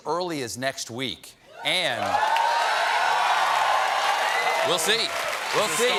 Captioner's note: cheers and applause